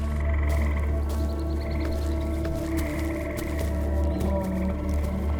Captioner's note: creatures chirping